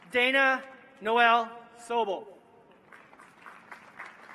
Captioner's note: applause